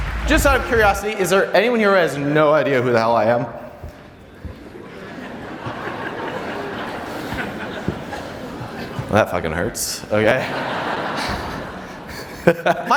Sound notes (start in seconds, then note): 0.0 audience applause; 4.5 audience laughter